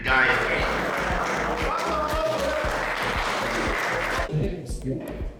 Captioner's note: applause